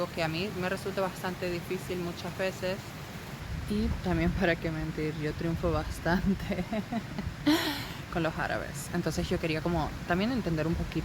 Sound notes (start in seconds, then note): 6.3 laughs